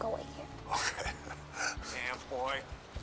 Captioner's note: chuckling